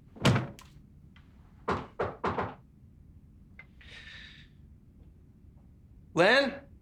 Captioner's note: knocking; knocking continues